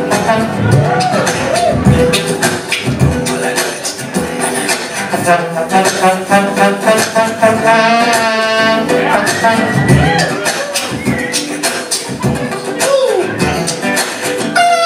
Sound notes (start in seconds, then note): 0.0 vocal trombone; 0.9 vocal percussion; 3.9 vocal trombone; 10.0 vocal percussion; 14.7 vocal trombone